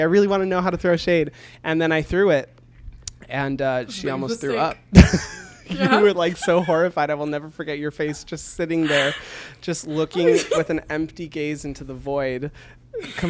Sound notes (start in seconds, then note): 3.8 laughs